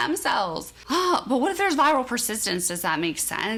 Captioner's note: sighs